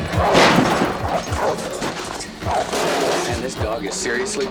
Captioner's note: barking continues